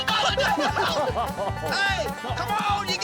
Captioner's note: laughter